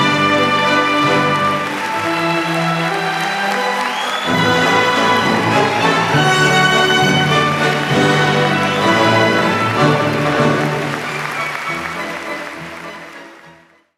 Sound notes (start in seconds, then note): 10.2 applause